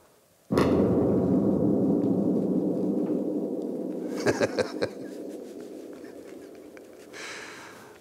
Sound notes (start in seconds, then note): 4.2 laughing